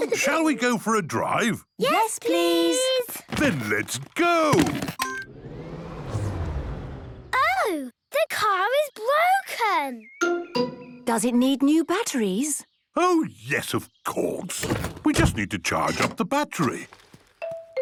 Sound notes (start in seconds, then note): 5.0 car chimes; 5.2 whirring, whirring stops